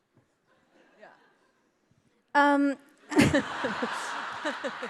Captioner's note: audience laughing